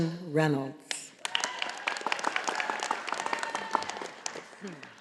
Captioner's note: audience applauding